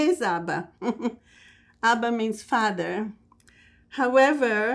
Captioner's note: laughing